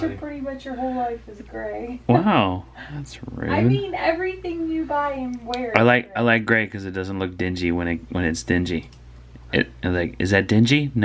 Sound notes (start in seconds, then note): 1.9 laughs